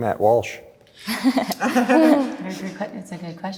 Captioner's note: laughter